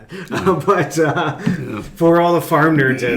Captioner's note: laughing